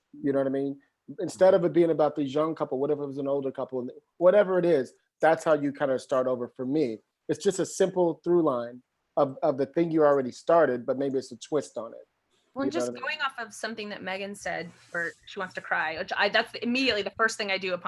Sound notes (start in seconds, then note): none